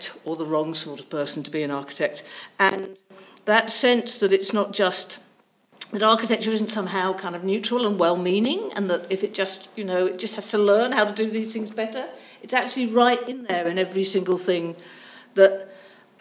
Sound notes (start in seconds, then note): none